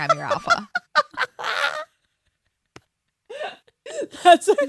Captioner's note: laughs